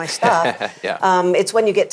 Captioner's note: laughs